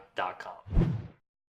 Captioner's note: whooshing